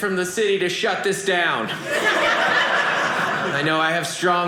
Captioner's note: audience laughing